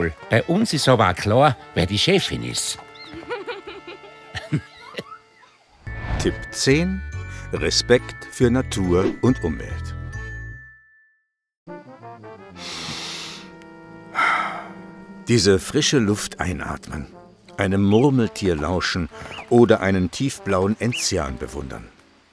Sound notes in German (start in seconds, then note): 12.5 Einatemgeräusch